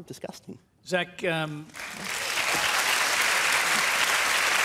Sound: applause

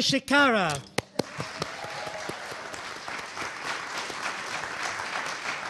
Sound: audience applauding

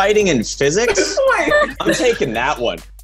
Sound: laughing

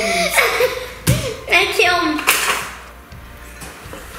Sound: laughing

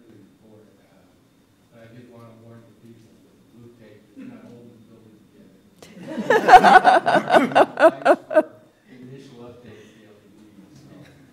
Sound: laughter

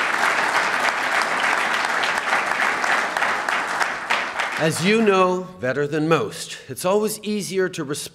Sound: applause

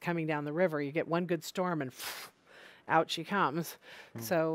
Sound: loud blowing

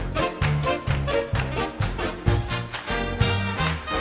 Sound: hands clapping

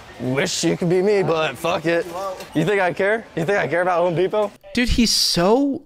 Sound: none

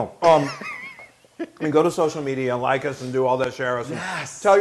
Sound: laugh

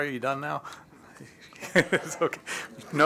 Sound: laughter

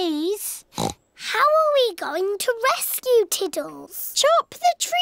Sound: oinks

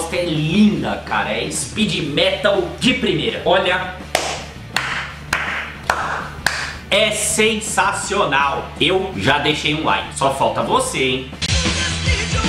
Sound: applause

